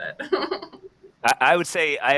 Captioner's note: laughs